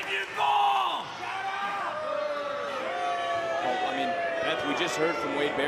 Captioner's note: crowd boos